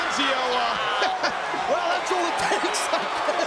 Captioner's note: laughs